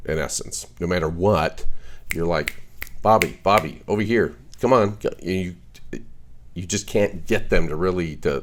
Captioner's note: snap snap